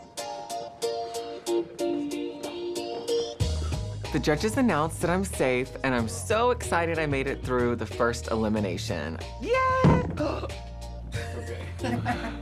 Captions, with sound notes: - The judges announced that I'm safe. And I'm so excited I made it through the first elimination. Yay! [gasps] [chuckles]